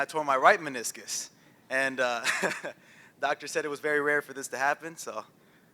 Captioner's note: laughs